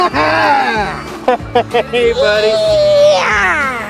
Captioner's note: laughing